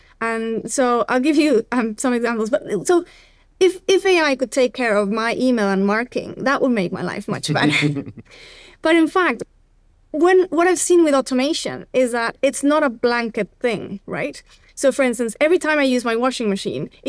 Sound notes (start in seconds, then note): 7.6 laughing